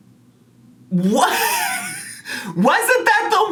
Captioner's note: laughs